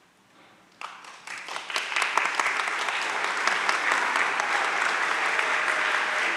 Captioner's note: audience cheering and applauding